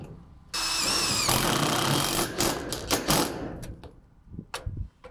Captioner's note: drill running